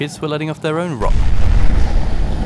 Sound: explosion

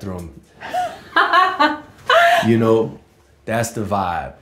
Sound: laughing

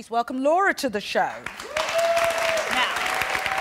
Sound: applause

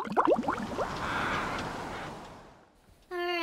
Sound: sounds of bubbles; water splashing

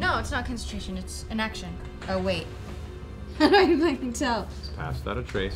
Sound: laughs

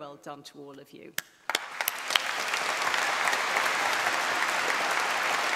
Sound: clapping

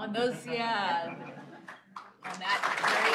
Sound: laughter; applause

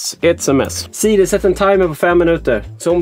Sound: talking Swedish

